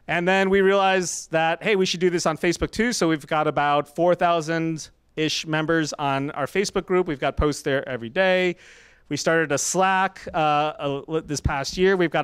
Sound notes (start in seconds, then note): none